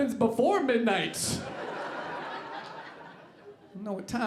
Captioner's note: audience laughing